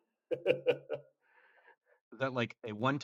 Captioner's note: laughs